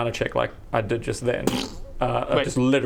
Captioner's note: dead scroll noises